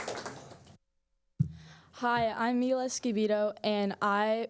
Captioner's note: applause